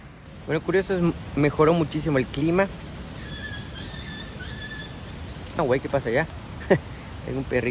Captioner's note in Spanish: chillido de perrito